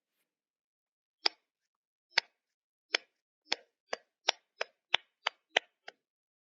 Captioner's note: bella begins clapping slowly, unsure, then more enthusiastic